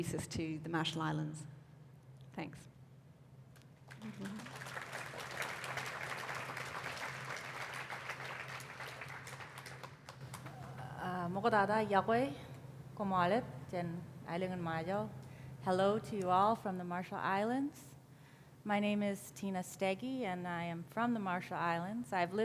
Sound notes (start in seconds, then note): 3.8 applause; 12.9 non-english speech